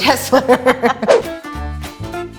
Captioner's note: laughing; upbeat music